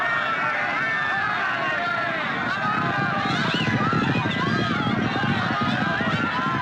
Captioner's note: crowd cheering